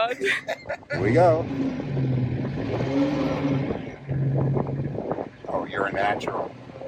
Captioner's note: chuckles; laughs; engine roars